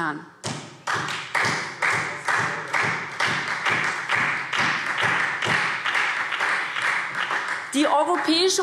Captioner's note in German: Beifall SPD und Freie Demokraten - Zuruf AfD